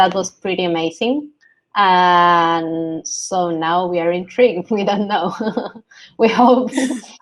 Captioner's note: laughs